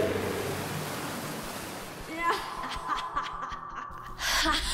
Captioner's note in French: rire maléfique